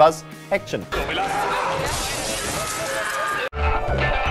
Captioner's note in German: Scheiben-zerbrechen